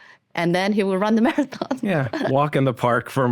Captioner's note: laughs